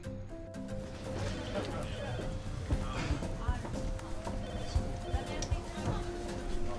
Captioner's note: staff chattering; phone ringing